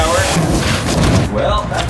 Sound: box thudding

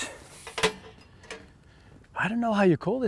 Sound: metals clinking

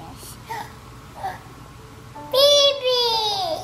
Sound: gasping

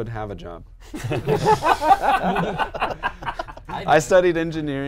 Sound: laughing

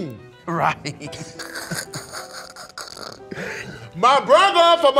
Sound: laughs

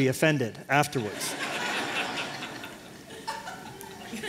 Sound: laughter

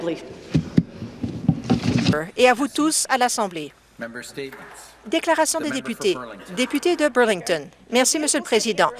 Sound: speaking French

